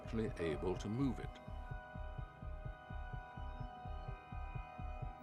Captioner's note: heart beating